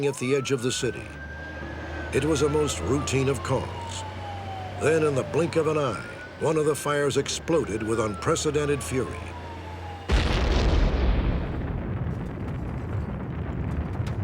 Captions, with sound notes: at the edge of the city. It was a most routine of calls. Then in the blink of an eye, one of the fires exploded with unprecedented fury. [EXPLOSION]